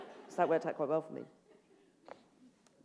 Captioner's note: laughter